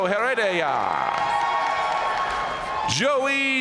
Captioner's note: audience cheering and applauding